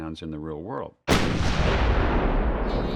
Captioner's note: explosion; bear groaning